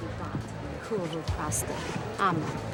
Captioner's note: speaking romanian